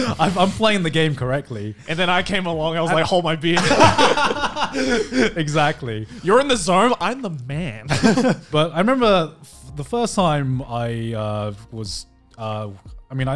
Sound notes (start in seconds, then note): 3.5 laughing